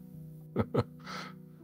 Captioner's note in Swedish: Skratt